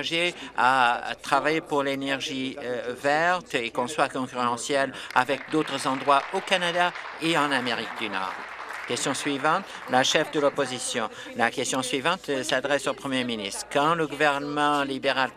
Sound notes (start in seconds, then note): 8.7 some Applause